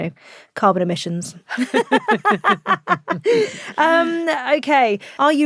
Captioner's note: both laughing